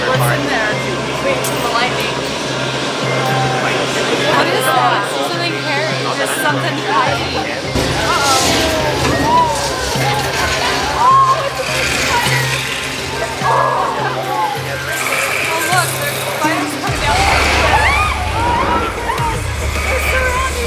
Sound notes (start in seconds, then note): 10.8 shreaking